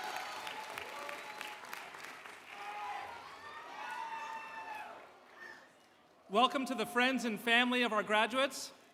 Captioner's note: cheers and Applause